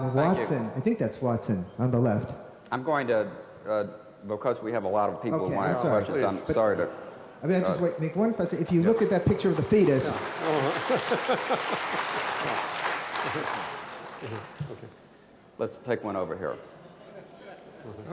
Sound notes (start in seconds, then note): 11.1 applause